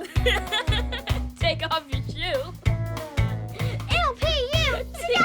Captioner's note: laughs